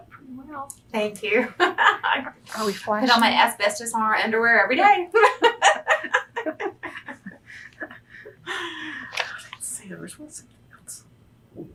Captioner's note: laughs